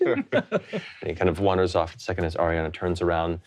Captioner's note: chuckles